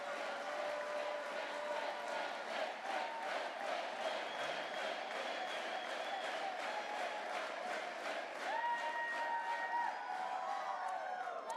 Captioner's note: chants